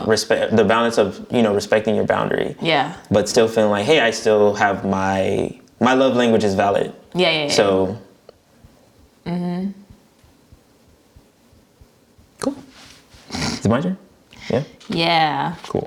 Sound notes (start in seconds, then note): none